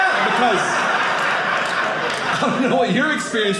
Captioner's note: audience laughing